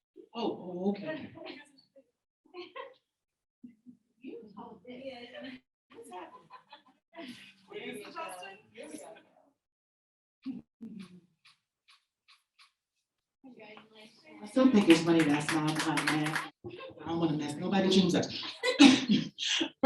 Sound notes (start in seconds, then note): 2.1 people chattering indistinctly